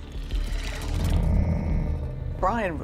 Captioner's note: low growl